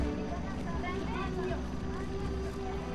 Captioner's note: talking excitedly